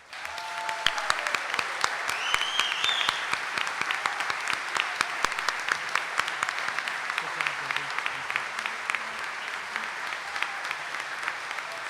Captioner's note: audience cheering and applauding